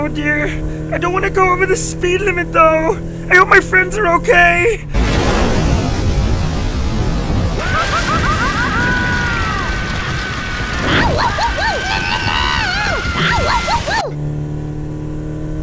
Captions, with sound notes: ...oh dear, I don't wanna go over the speed limit tho'. I hope my friends are ok. (Screaming) ow wo wo wo! N N No! Ow wo wo wo!